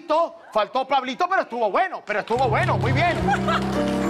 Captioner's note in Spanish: Aplausos